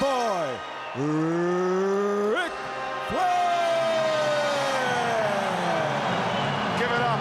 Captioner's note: crowd cheers